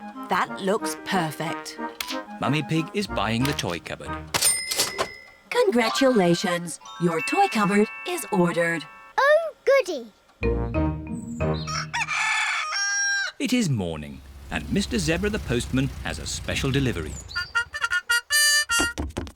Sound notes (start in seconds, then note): 11.6 cockerel crows